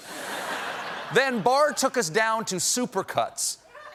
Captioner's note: laughter